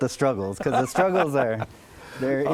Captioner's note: laughs